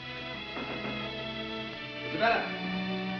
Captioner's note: knocks on door